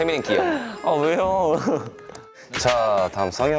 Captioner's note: tsk